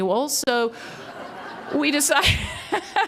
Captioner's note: laughter; laughs